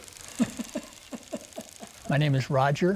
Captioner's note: laughing